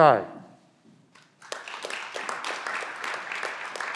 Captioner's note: clapping